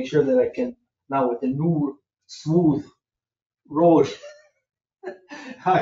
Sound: chuckles

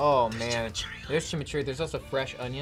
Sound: whispers

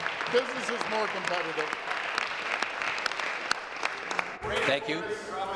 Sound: applause

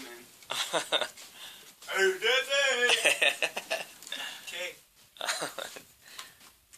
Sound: acting like he's retarded and making sounds

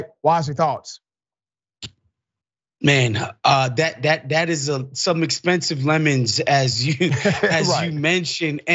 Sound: laugh

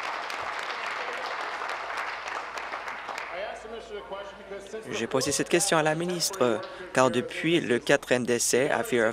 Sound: applause

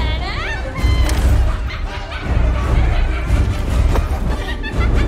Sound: laughing

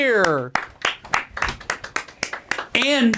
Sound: clapping

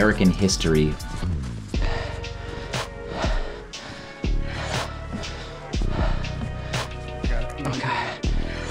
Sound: heavy breathing

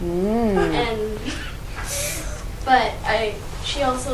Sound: giggles

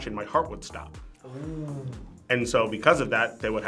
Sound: group oohs

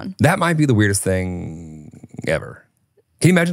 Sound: none

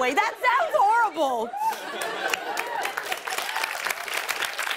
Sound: cheers and applause

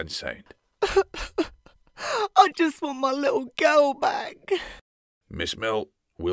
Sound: sobbing

